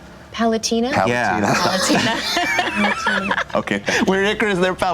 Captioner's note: laughing